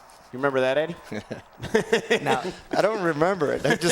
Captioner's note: laugh